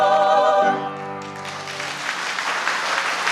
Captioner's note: applause